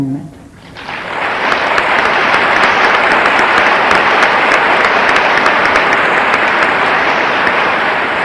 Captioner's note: audience applauding